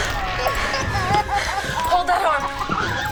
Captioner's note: puppets laughing